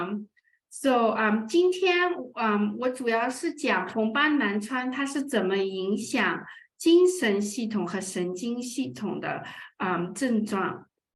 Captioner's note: speaking chinese